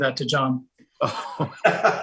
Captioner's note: laughing